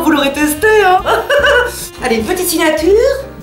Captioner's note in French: rire hystérique